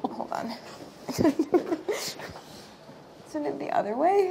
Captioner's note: laughing